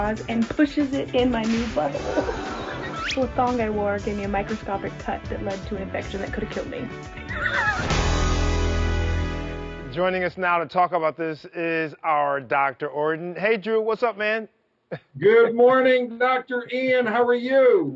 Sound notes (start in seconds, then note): 2.1 gasping; 7.2 laughing